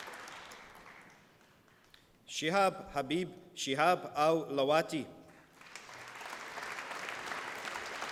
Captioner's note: applause